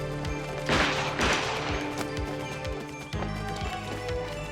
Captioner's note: gun firing